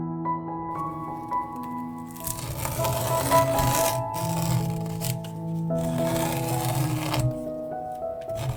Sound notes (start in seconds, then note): 2.3 peeling off masking tape sounds